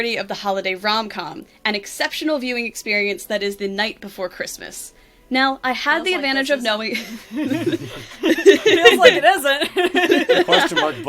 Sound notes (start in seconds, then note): 8.7 mutters; 9.6 laughs